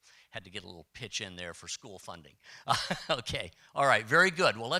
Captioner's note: chuckle